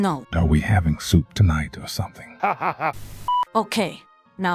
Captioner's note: laughing